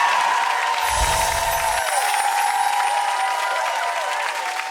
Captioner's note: audience cheers; chimes jingle